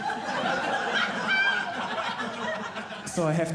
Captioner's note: audience laughing